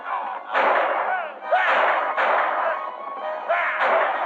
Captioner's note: hooves clattering; men yelling